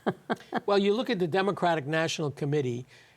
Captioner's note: laughs